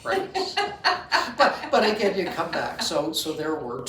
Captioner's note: laughing